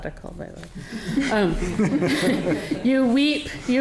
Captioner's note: audience laughing